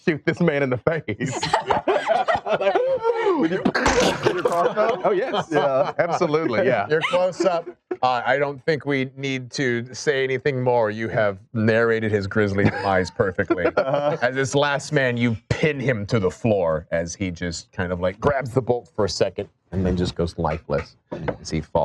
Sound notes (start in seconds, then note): 1.2 all laugh; 3.8 bow breaking